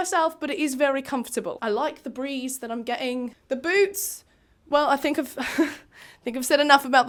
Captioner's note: laughs